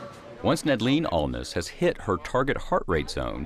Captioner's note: voiceover